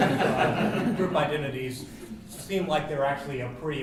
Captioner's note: laugh